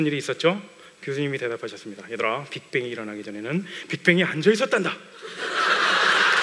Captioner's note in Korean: 웃음